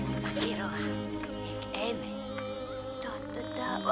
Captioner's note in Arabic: الصوت المنطوق البدوي